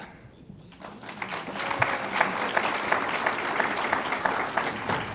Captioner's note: audience applauds